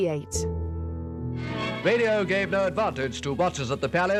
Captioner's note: radio Announcer